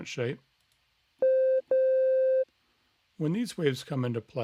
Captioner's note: electronic tones playing